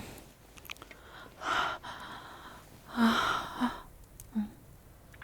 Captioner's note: she pants, hot and heavy, into your mouth, sighing in bliss